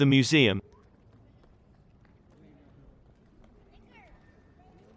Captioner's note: people chattering